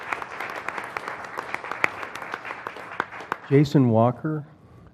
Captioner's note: applause